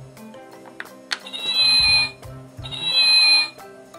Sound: cat Sound

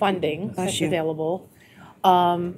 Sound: sneezing

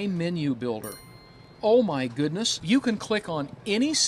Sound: bell rings

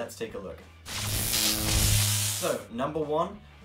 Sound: electric buzz

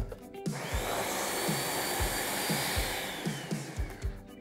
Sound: blender whirring

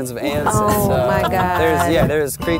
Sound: laughs

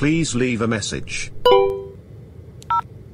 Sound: beep?

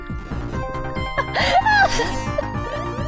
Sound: still laughing

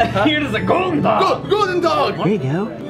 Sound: foreign language

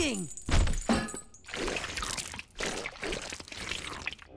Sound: slurping

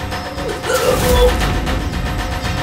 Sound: throws up

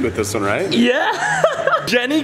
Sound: laughs

